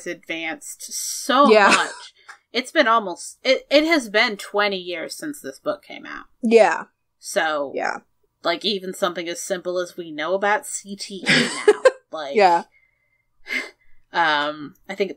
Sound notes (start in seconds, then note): 11.3 laughs